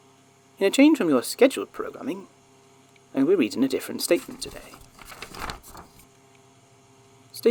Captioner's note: paper shuffling